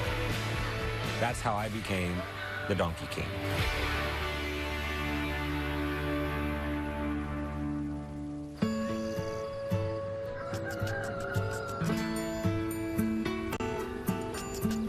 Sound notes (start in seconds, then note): 9.9 rooster crowing; 13.9 donkeys braying